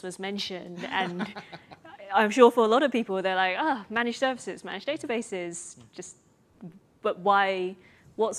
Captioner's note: chuckle